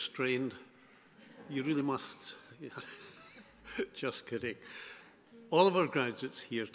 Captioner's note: laughs